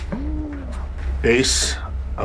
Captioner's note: muffled scream